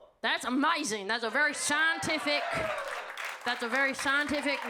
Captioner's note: audience clapping